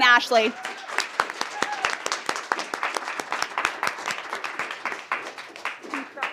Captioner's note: applause and cheering